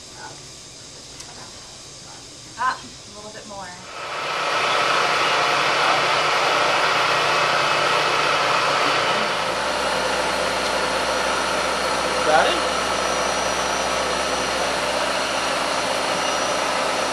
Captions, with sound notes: : Ah. A little bit more. (machine shop noise) : Ready?